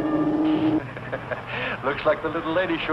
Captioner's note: laughs